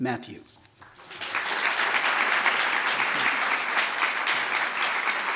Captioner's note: audience applauding